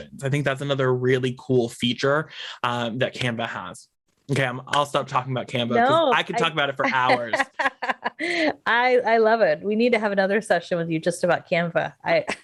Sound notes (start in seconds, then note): 7.5 laughs